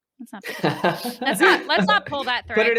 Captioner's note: laughs